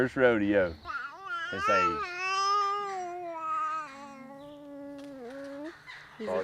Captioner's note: babbling